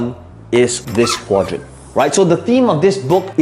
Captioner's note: marker squeaking